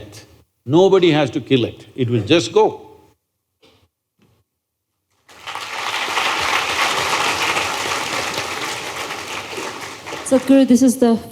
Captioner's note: applause